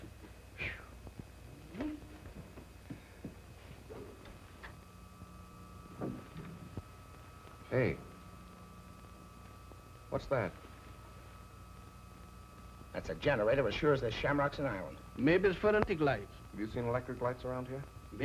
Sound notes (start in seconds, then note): 4.1 electricity humming